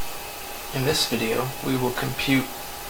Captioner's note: voiceover